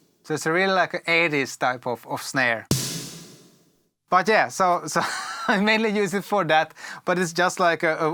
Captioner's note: reverb